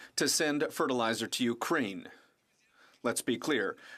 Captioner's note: speaking french